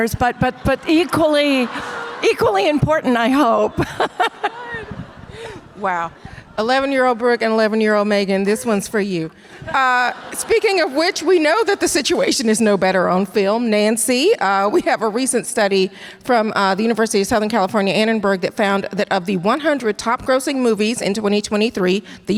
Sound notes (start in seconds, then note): 3.0 laughs; 9.6 audience laughter